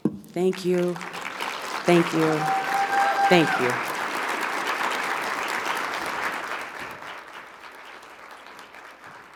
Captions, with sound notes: Thank you, thank you, thank you. (audience applauding) (audience cheering)